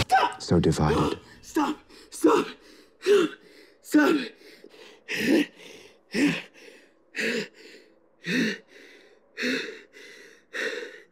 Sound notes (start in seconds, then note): 5.8 panting